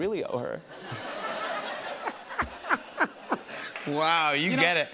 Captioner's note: laughter